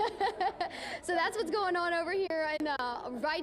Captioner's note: laughter